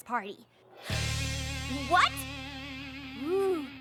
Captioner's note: gasps